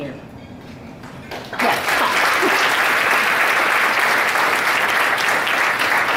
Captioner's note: audience claps